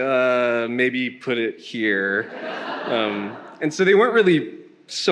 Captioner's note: attendees laughing